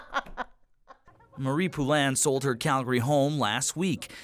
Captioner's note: laughter